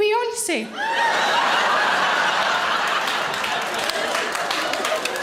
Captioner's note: audience laughing